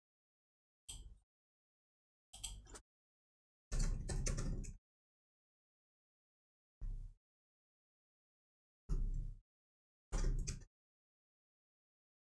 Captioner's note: blank Audio